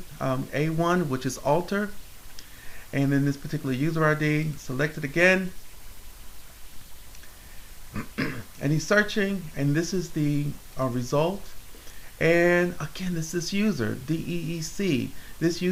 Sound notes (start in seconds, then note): 7.9 clears throat